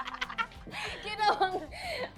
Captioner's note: laughter